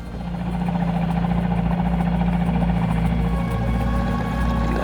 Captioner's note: boat engine rumbling